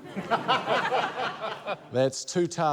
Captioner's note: laughter